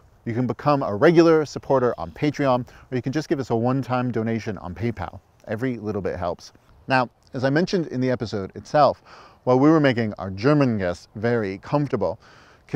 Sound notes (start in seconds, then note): none